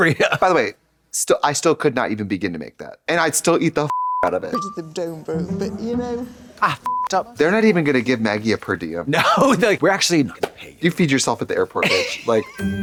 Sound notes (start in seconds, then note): 3.9 beep; 6.8 beep